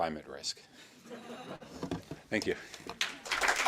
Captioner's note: audience laughing; audience clapping